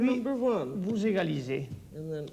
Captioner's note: speaking French